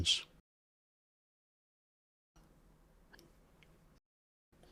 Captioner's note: silence